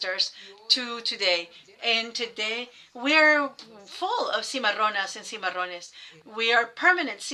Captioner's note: speaking foreign language